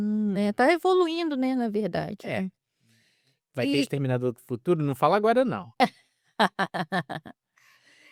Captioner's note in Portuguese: risadas